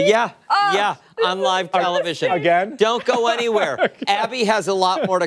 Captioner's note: laughter